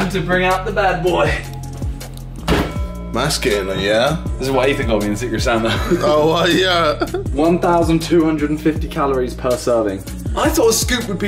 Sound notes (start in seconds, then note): 8.4 laughing